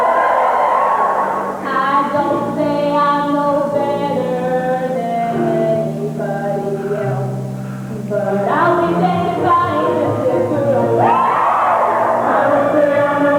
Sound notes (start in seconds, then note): 10.3 cheering